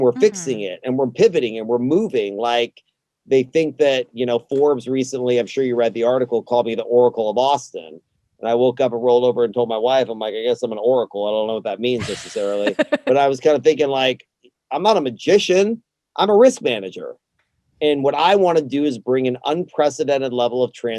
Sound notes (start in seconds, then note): 11.8 laughs